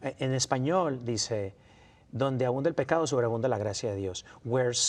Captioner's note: spanish